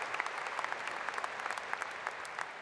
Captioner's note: applause